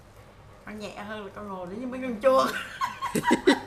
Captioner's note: laugh